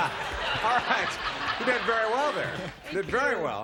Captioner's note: laughs